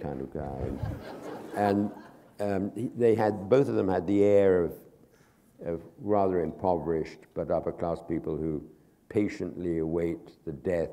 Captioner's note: laughter